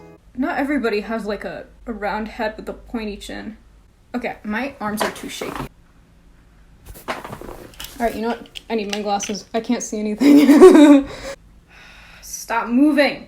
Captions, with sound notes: Not everybody has a round head with a pointy chin. Okay, my arms are too shaky. Alright, you know what? I need my glasses. I can't see anything. [laughs] Stop moving!